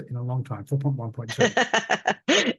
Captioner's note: laughs